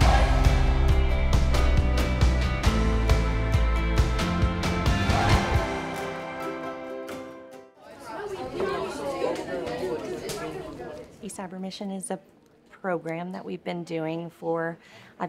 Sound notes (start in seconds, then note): 0.0 upbeat music; 7.8 students chattering